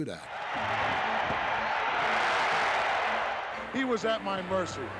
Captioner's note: applause